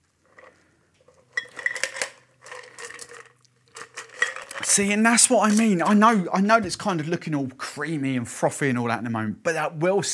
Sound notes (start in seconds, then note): 1.6 shaking ice